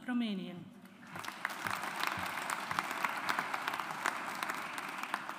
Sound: audience applauds

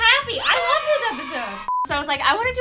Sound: beep

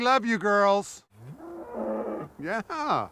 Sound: cows mooing

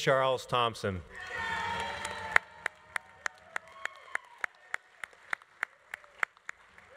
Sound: audience cheering; audience applauding

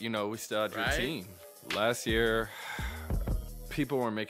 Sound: sighs

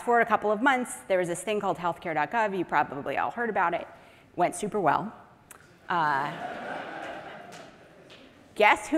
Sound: audience laughing

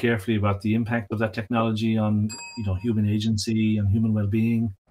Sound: bell dings

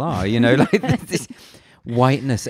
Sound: laughs loudly

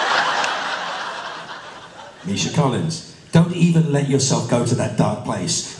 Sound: roaring laughter

